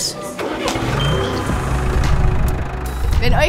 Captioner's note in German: Traktormotor startet